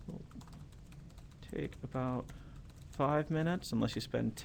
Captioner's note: typing